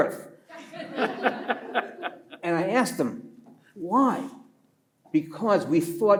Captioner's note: listeners laugh